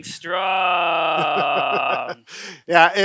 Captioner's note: laughter